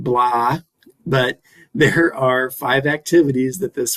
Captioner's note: chuckles